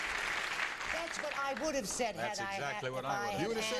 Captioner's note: applauding